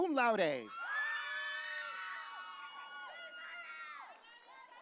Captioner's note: audience cheering